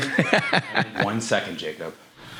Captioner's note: laughs